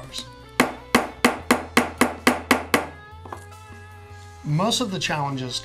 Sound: hammering

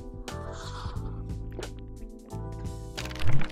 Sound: slurping

